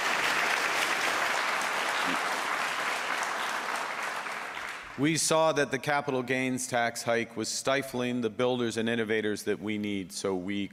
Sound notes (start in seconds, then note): 2.1 applause